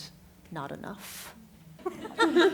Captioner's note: laughter